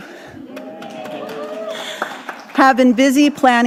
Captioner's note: audience cheering